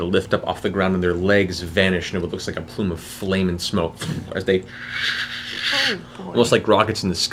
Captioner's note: whoosh